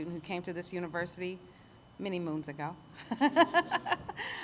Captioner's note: laughs